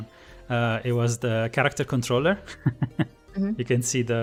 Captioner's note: laughs